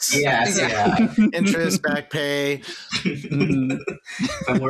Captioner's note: laughter